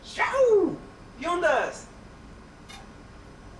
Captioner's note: speaks spanish